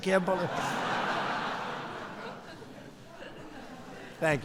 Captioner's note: laughter